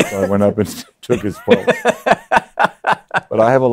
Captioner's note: laughs